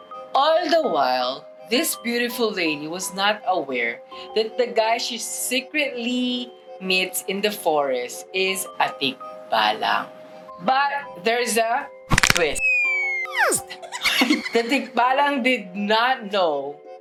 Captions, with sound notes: All the while, the beautiful lady was not aware that the guy she was secretly meeting in the forest was a tikbalang. - But, there's a twist. - [LOUD CRACK] [LAUGHTER] The tikbalang did not know